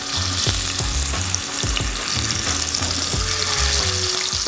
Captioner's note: oil sizzling